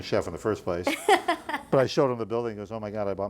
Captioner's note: laughing